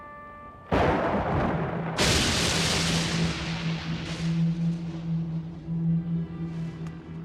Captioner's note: suspenseful orchestral music; thunder claps